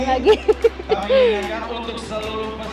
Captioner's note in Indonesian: Ketawa